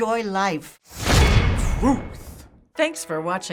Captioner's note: clang!; voice-over